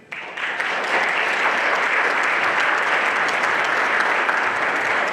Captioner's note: everyone applauding